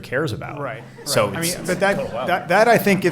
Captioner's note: laughing